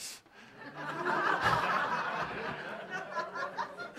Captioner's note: laughter